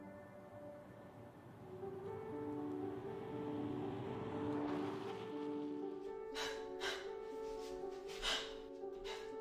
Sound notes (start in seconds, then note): 3.4 car and road noise; 6.3 Ava panting